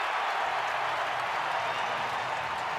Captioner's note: crowd cheering